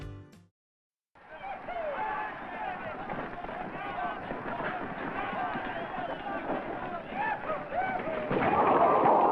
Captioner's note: crowd Noise/Long Intro